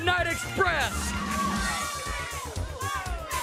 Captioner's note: crowd cheering